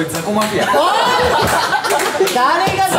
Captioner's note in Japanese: 笑い